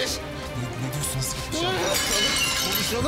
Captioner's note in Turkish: Bağırıyor